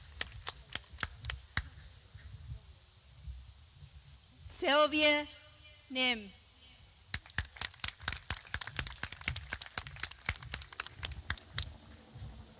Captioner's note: clapping